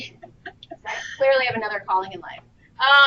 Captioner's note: laughter